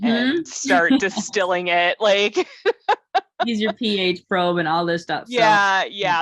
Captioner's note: laughter